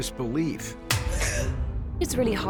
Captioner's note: gasps